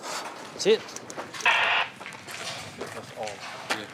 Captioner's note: radio crackles